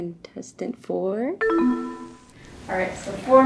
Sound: descending ding

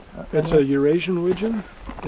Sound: voiceover

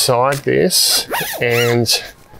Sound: zip rasping

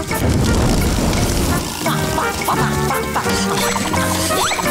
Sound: humming

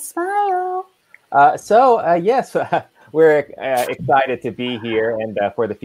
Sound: chuckling

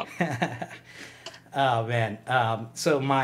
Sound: laughs loudly

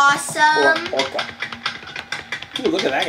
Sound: footsteps on metal

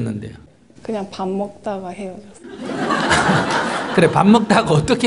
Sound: audience Laughter

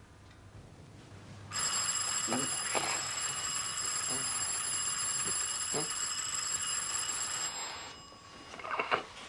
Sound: doorbell rings

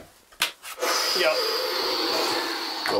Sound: sharply inhales; groan

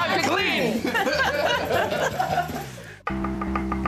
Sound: laughter

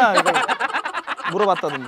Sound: laughing

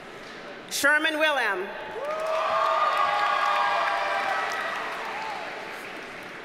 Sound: audience cheers and applauds

